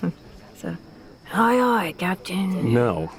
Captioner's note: imitating pirate